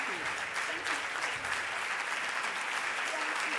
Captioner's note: audience applauding